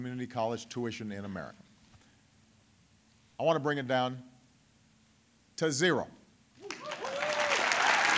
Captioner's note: applause